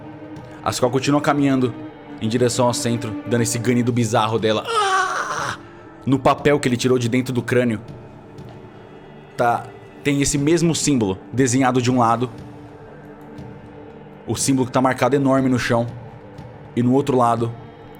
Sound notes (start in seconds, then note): 4.6 groaning